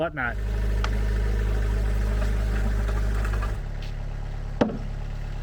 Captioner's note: engine running calmly